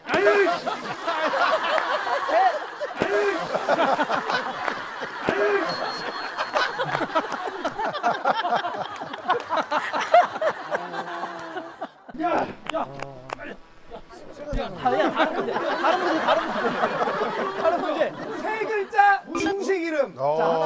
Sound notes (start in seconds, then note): 0.1 splashing; 3.0 A heavy splash